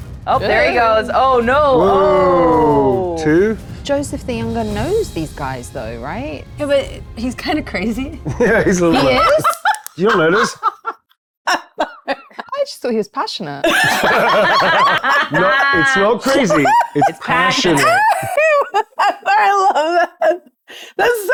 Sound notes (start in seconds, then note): 10.9 laughing; 13.6 group laughing; 18.2 laughing